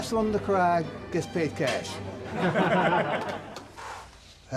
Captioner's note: laughing